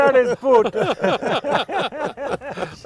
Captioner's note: laughter